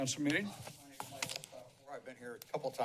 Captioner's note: background chatter